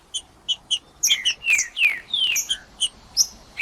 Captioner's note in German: trinca ferro cantando